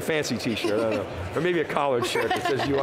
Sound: laughing

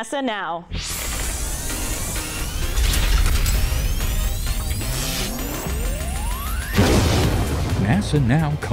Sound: sound Effects

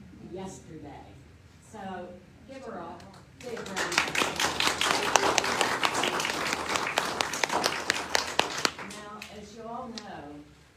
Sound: clapping

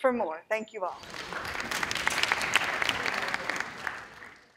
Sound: audience clapping

